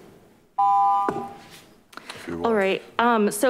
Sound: beeping

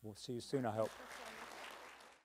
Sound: audience applauding

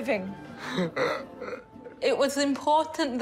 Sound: chuckles

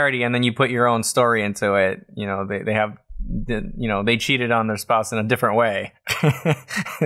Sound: laughter

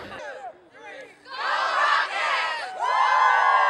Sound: cheering

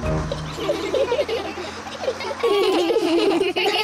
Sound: all giggle

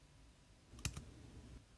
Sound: click

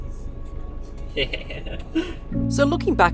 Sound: chuckles

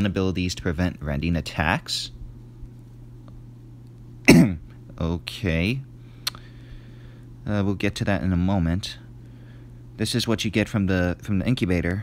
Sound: cough

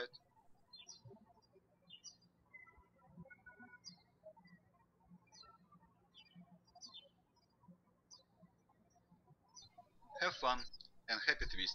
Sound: birds chirping

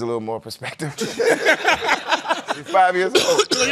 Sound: laughter

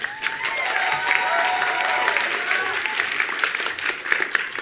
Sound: attendees applauding

